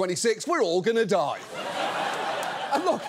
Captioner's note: studio audience laughs